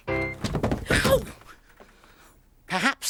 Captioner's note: thudding; yelps